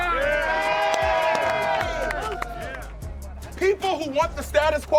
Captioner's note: crowd cheering